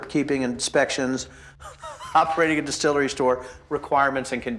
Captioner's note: laughing